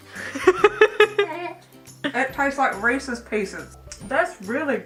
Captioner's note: laughing